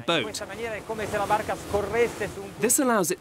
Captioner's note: wind